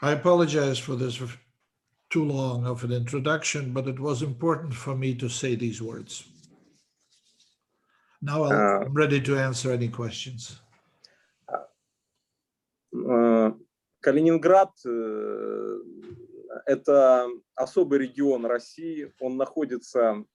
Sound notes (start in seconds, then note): 13.3 speaking Russian language